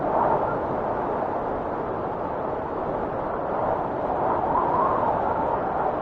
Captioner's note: wind whistling continues